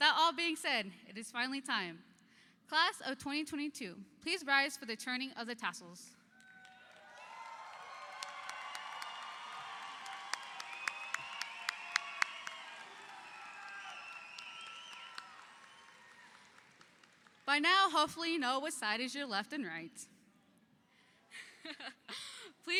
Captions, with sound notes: With that all being said, it is finally time Class of 2022, please rise for the turning of the tassels. (audience applauds) (audience cheers) By now hopefully, you know what side is your left and right.